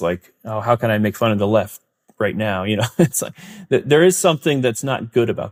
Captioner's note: laughs